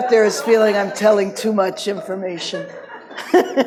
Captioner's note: laughs